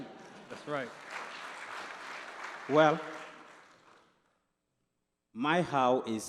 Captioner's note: applause